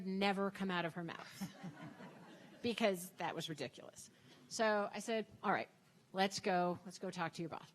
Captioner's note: audience Laughing